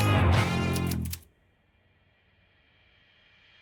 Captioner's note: text clacking; bright music